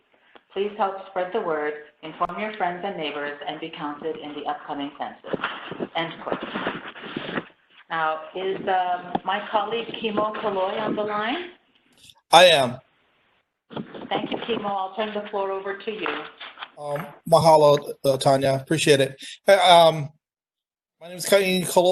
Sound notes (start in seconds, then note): 6.7 Arabic; 10.5 Vietnamese